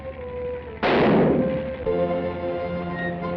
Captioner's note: gunshot